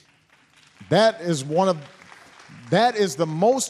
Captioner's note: applause